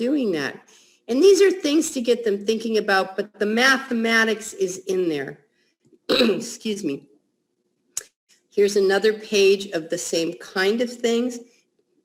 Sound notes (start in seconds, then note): 6.1 clears throat